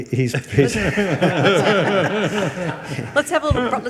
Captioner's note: attendees laughing